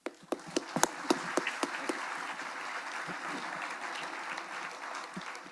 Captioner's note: attendees applauding